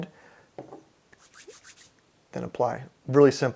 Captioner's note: hands rubbing together